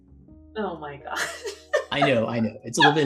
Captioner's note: laughs